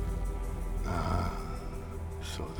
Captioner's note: scottish accent